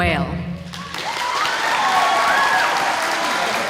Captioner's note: applause